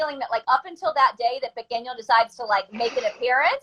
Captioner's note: spanish